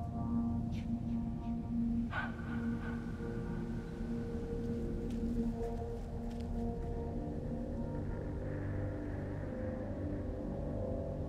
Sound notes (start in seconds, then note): 0.6 chilling reverberation